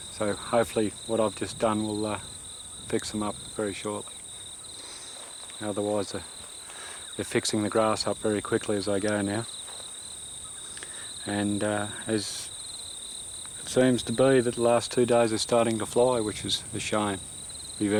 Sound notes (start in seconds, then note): 9.9 cicadas